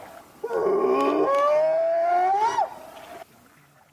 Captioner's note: bigfoot whooping